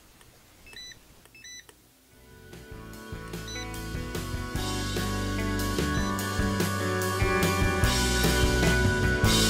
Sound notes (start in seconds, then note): 1.4 scanner beep; 3.4 scanner beep